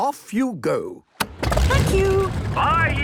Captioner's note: engine starting